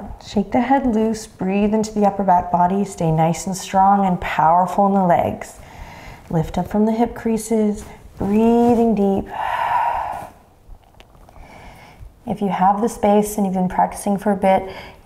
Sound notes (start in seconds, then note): 9.2 exhaling deeply